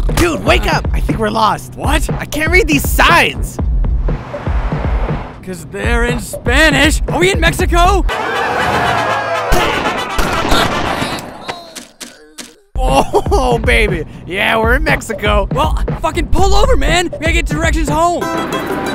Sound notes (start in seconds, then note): 9.4 gunshots